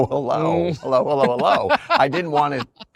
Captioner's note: laughs